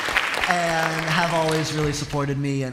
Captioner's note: applause